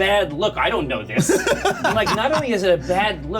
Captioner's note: laughter